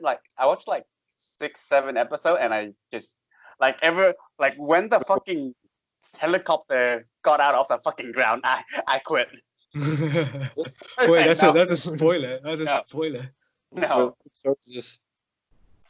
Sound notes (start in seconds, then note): 9.7 laughs creepily